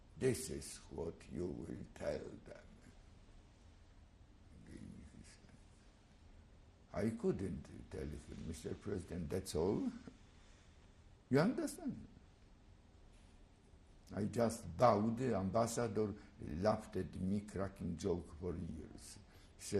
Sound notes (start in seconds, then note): 11.6 pauses for 3 seconds